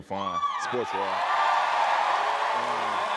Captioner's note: cheers and applause